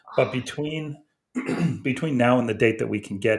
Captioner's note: clears throat